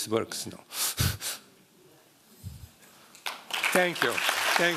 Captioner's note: applause